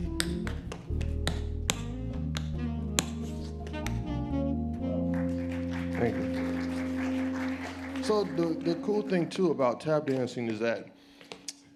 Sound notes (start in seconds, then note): 5.0 audience applauds